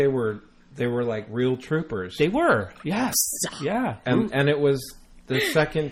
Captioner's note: laughs